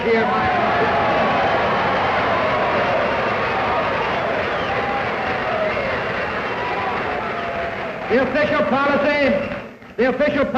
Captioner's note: cheers, applause